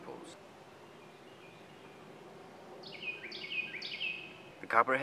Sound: Carolina wren singing

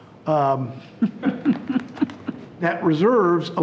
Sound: people chuckling

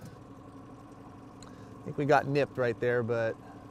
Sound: boat engine idling

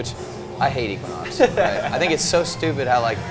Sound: laughs

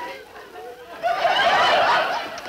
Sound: audience laughing

